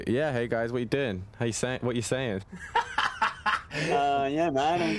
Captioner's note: laughing